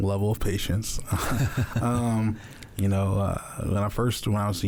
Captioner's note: chuckles